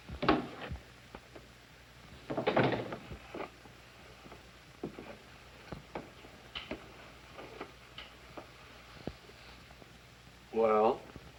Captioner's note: door closes; door opens